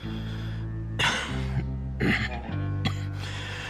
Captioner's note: cough cough